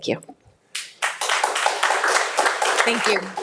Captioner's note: audience applauding